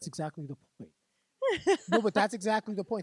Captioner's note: laughing